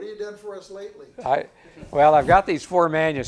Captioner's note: audience chuckles